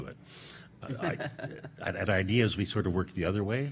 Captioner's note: laughing